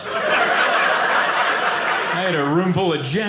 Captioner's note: audience laughing